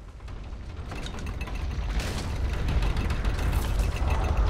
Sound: house rattles

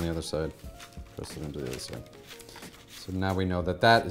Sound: paper crinkles

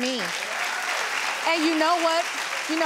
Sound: audience cheers

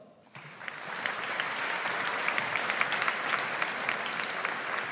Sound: audience applauds

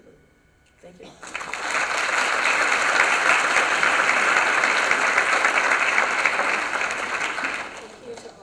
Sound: applause

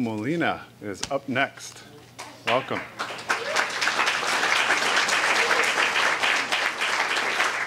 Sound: applause

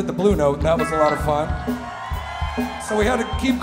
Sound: crowd cheering

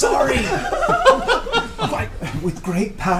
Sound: all laugh

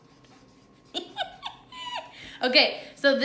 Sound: laughing

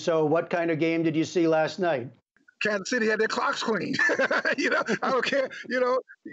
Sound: laughter

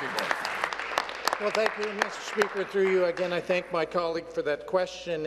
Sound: applause

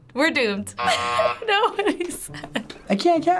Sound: buzzer rings

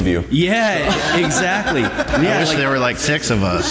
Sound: laughter

